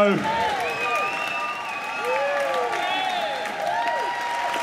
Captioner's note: applause